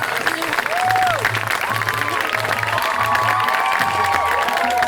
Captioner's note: audience applauds; audience cheers